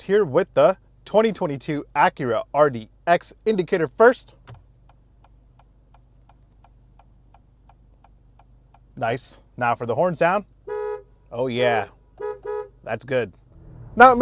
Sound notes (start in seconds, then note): 4.3 indicator clicking; 12.1 car horn honking